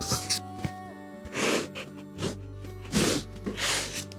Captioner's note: crunches of bones